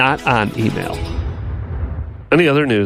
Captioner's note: whooshing